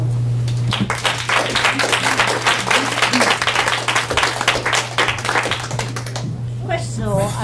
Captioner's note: applause